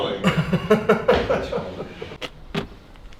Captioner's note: laughs